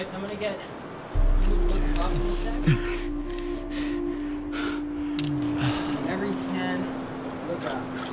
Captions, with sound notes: Chris, I'm gonna get you to look up in a sec [labored breathing] Whenever you can, look up